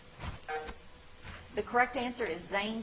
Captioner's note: timer buzzing